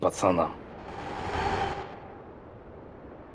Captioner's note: commuter train noise